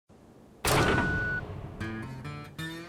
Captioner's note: hydraulic noises and beeping